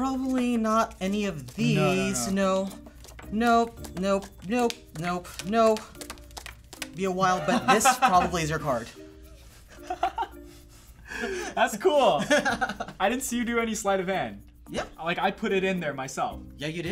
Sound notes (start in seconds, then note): 9.7 laughs